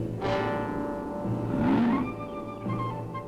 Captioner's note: growl